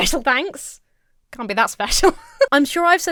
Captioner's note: Emma laughs